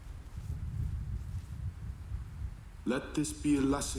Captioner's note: thunder rolling